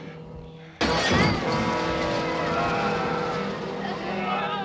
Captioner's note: shouting, groaning